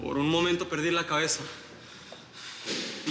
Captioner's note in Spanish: none